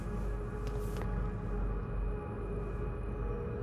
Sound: footsteps

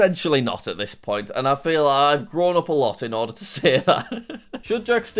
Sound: laughs

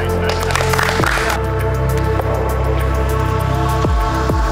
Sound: spectators applauding

